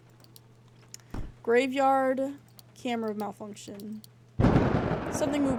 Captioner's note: thud; thunder